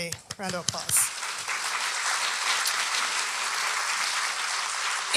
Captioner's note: audience applauding